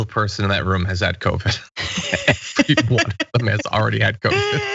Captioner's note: laugh